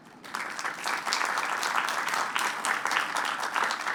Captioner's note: applause